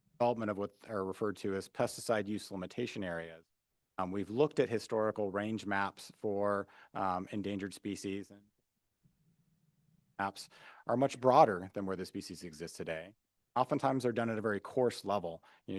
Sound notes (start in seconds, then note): 10.1 audio Missing